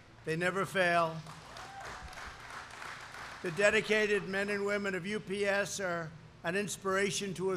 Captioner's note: applause